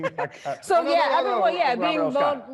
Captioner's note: laughing